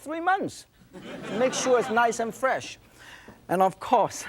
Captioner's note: crowd laughing